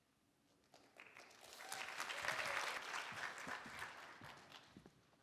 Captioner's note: applause